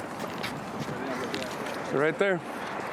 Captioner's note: background chatter